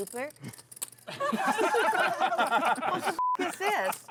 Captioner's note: table laughs